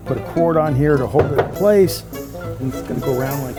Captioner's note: block thumping